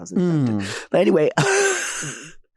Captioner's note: chuckling